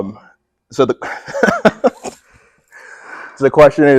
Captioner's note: laughs